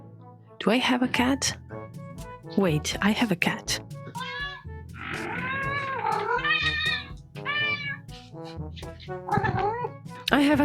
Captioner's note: meowing